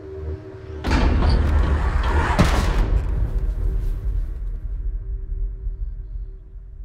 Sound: ominous music; metal banging

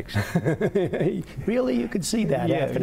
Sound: laughter

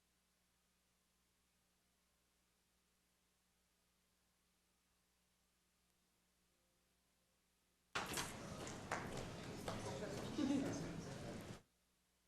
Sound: applause

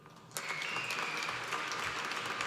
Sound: applause

